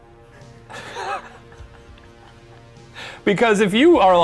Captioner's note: laughing